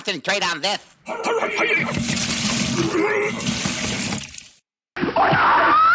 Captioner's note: fighters groaning and grunting